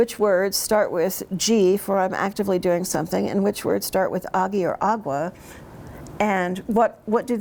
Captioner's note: speaks in Cherokee